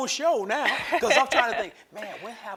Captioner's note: laughs